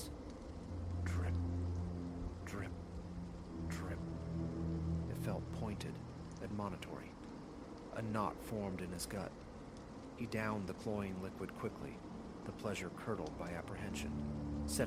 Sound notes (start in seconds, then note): 0.0 drip... drip... drip